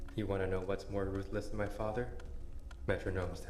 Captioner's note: none